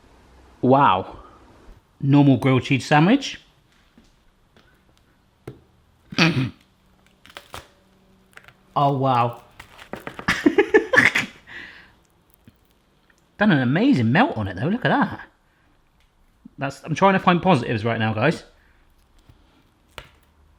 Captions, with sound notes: Wow. Normal grilled cheese sandwich. (stifled laugh) Oh wow. (laughs) Got an amazing melt on it though, look at that. I'm trying to find positives right now guys.